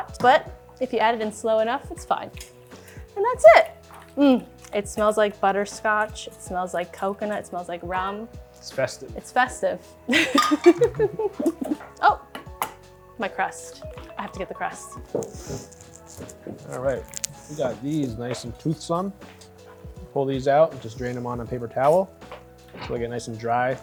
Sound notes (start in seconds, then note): 10.1 laughs; 11.9 phone alarm